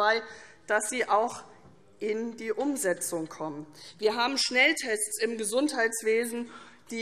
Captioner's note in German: none